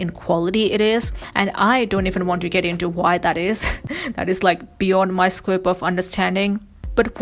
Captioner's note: laughs